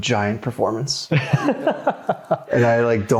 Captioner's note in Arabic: يضحك